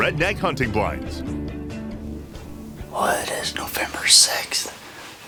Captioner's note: whispering